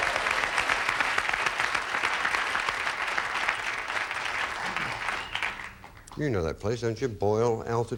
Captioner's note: audience applauding